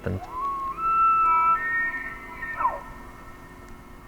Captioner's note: elk bugles